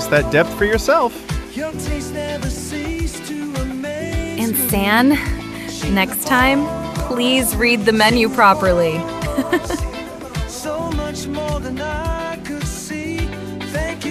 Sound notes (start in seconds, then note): 9.1 haha